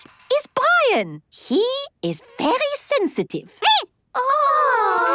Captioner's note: squeaking